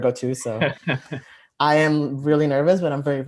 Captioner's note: laughs